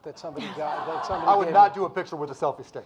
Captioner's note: audience laughing